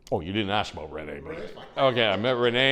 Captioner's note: chuckles